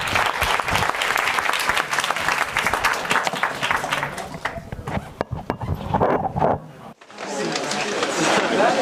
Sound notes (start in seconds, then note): 0.0 applause; 7.0 indistinct conversation